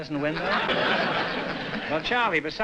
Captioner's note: laughter